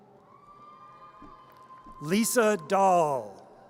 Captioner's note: audience cheers